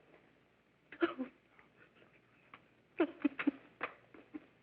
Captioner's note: sobbing